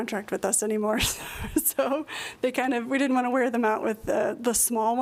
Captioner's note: laughter